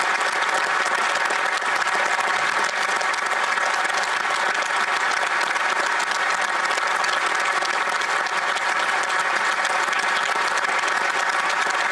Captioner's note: applause